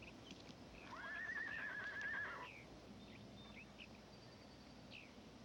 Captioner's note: horse whinnying in distance